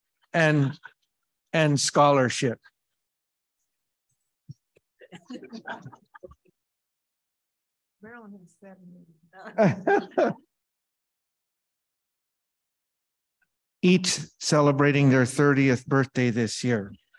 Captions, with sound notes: and scholarship. - Marilyn has seventy. (chuckles) - Each celebrating their 30th birthday this year.